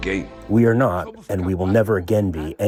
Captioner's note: through translator